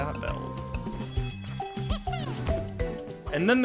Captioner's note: bell ringing